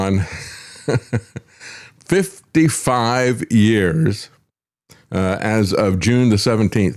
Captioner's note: laughs